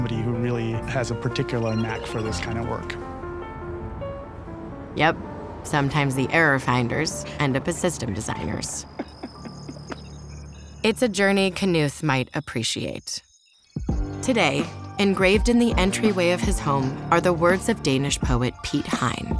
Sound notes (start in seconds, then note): 8.8 laughs; 13.8 dramatic music